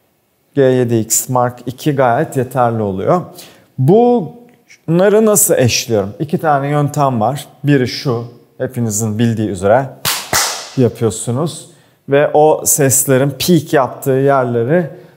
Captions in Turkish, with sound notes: G7X MK2 gayet yeterli oluyor. Bunları nasıl eşliyorum? 2 tane yöntem var, biri şu. Hepinizin bildiği üzere ( el şaklatma ) yapıyorsunuz. ve o seslerin pik yaptığı yerleri